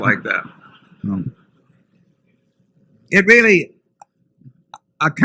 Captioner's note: laughter